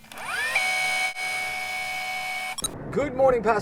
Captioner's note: mechanical reeling and beeping